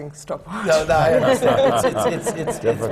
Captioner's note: laughter